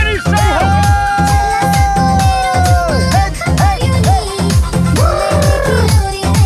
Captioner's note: shouting; trills